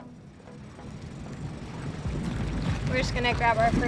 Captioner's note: engine roaring